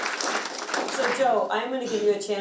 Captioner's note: all clapping